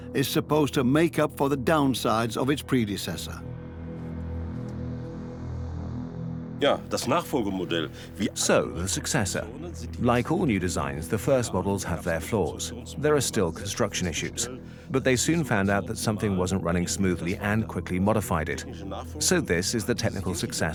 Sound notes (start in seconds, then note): 8.1 in German; 9.7 dubbed in English